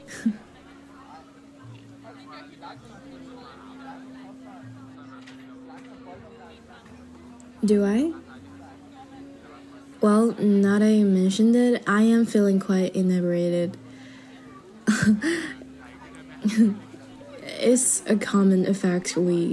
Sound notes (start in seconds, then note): 14.8 chuckle